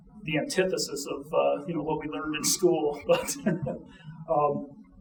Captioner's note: chuckling